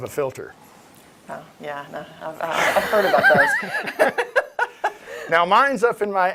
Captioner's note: laughs